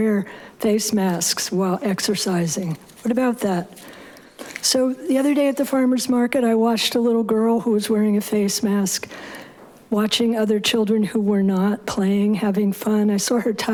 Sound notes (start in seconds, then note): none